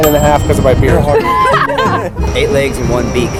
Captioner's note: laughter